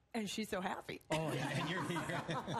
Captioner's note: laughter